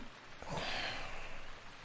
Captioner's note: sighing